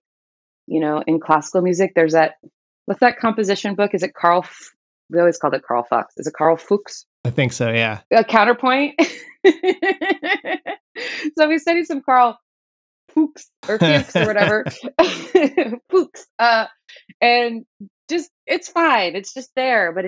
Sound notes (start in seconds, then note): 8.4 laughter